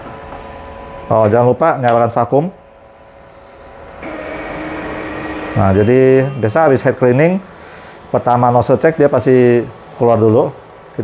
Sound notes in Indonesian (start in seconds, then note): 3.6 suara mesin printer